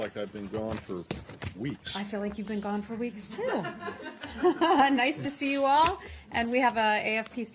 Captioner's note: laughter